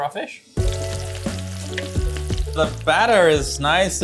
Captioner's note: oil sizzles; gentle instrumental music